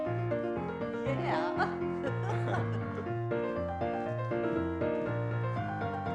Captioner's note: laughs